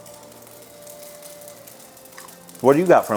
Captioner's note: rice sizzling